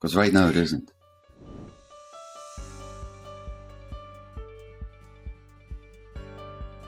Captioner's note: air whooshes; upbeat music